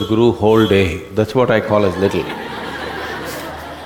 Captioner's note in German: Gelächter